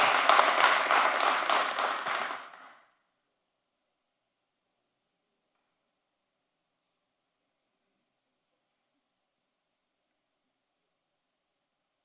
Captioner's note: applause